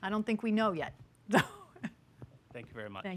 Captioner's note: laughs